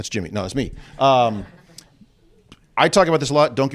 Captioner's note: laughter